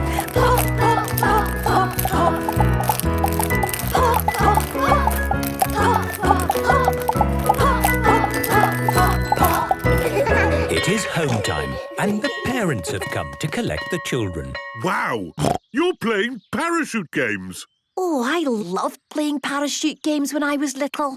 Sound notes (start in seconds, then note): 10.0 laughter; 15.4 snorting